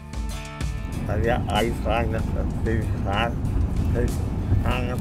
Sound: man babbling

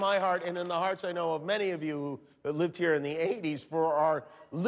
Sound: cheers and applause

